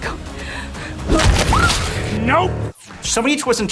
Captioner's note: screams